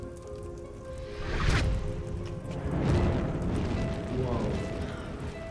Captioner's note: doorway whooshing